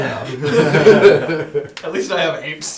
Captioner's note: all laugh